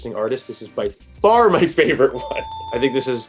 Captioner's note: happy bells chiming